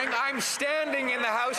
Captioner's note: some Applause